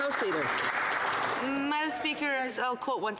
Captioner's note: some Applause